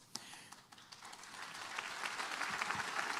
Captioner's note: applause